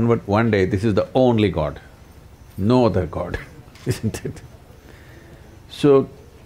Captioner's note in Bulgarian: смее се